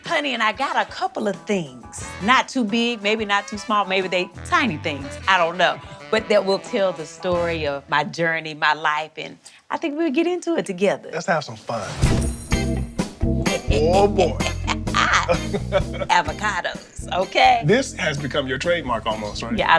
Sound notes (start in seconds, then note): 14.4 Tabitha laughs